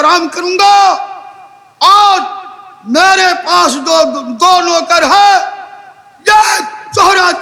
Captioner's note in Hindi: चीखने की आवाज़